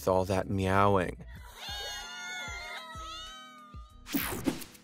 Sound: cats meowing; air whooshing

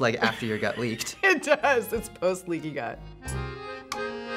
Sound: laughs; accordion music

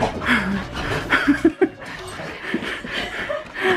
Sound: giggling

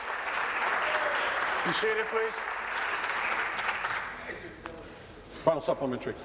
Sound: applause

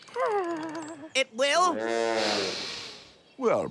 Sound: giggles

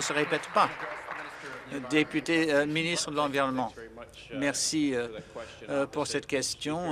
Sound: applause

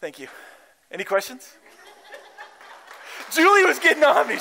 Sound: laughter

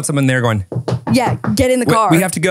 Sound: knocking

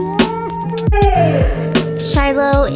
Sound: dog vocalizes

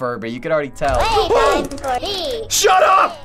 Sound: frightened gasp

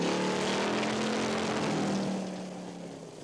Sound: engine revs

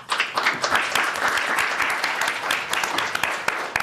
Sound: applause

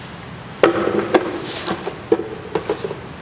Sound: broom sweeping

